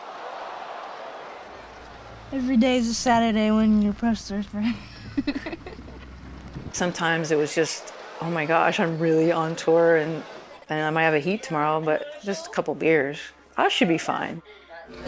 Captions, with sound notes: Every day is a Saturday when you're a pro surfer. (laughter) Sometimes is was like, "Gosh, am I really on tour?" "I might have a heat tomorrow, but just a couple of beers." "I should be fine!"